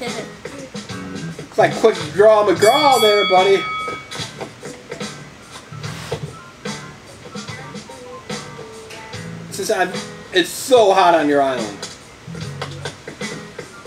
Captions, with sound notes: Like Quick Draw McGraw, there, buddy. (boxing bell dings) Assistant, it's so hot on your island.